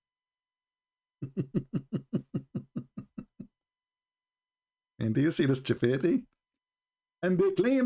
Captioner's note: Ketawa